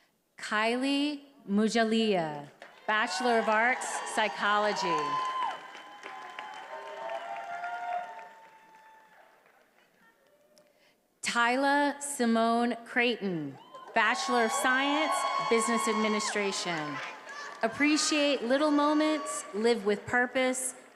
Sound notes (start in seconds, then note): 5.5 attendees applauding and cheering